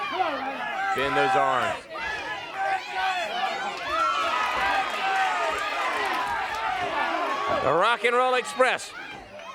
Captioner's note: crowd chatter